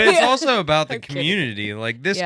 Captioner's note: laughing